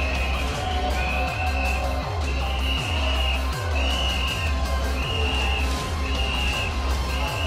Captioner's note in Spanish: Continúan los pitazos; Sonidos de la riña